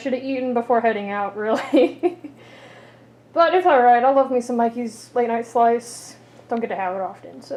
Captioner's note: laughs